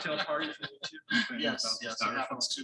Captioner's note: laughter drowns out speech